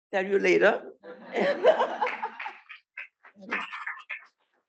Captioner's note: laughter, applause